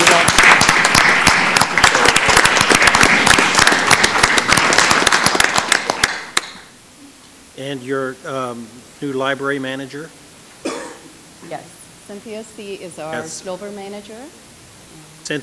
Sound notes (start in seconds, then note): 3.1 applause